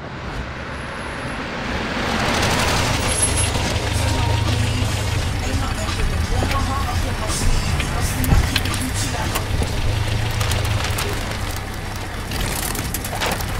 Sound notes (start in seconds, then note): 0.2 open whooshing; 2.5 engine running; 3.8 car approaching